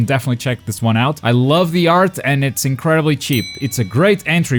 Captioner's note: ding